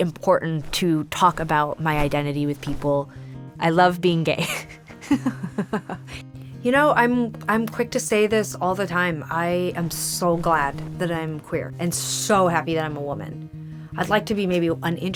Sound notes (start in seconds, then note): 4.4 chuckling